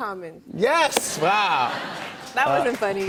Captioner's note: laughter